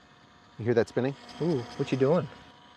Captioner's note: TFX 3 Hopper whirring